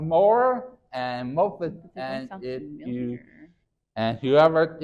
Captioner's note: faintly speaking